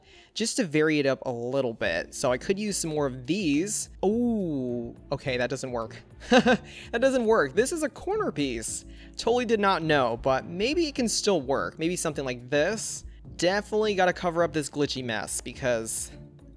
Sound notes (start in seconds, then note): 6.2 laughs